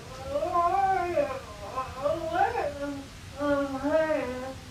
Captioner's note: Gina mumbling